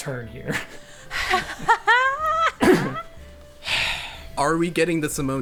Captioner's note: laughing